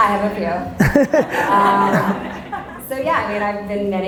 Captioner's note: audience laughter